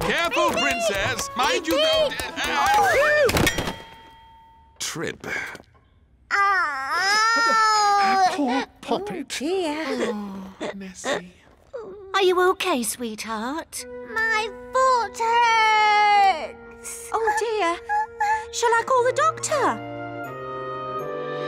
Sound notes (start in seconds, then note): 5.3 sighs; 6.3 groans